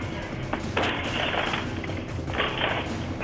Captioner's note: window rattling